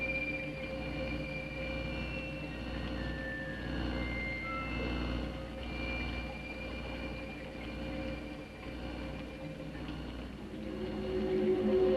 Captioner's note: electric humming sound; ominous music; liquids bubbling